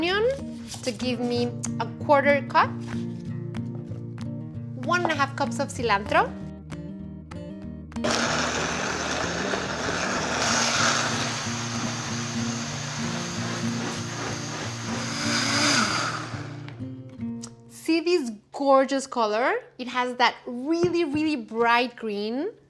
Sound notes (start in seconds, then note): 8.0 blender whirs